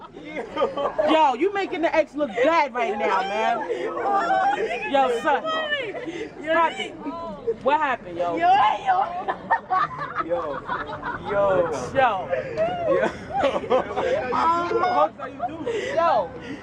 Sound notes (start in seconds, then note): 2.8 chuckles in the background; 9.2 chuckles in the background